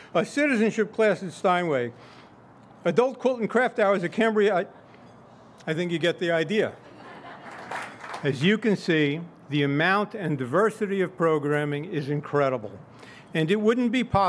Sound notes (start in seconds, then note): 6.8 audience laughs and claps